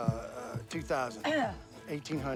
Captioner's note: Bonnie coughs